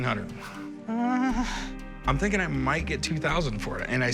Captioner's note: moans